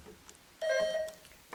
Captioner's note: bell dinging